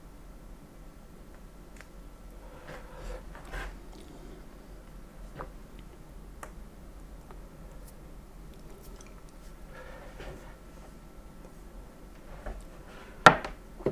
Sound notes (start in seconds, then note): 0.0 silence